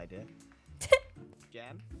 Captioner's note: laughs